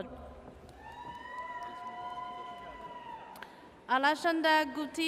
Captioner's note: audience cheers